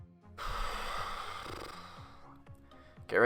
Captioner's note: sighs